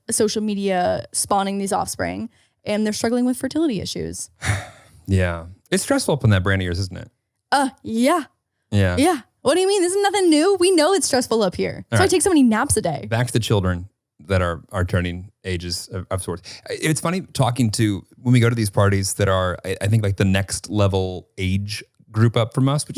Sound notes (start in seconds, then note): 4.4 sighing